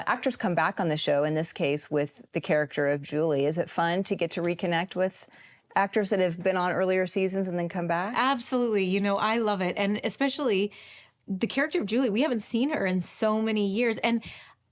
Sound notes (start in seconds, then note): none